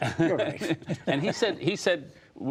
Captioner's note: laughter